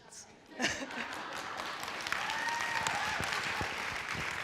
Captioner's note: applauding